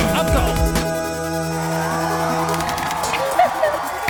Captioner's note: crowd cheering; laughing and clapping